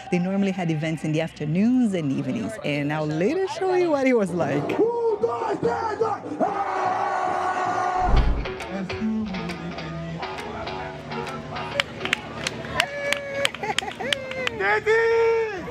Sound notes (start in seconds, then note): 5.1 screams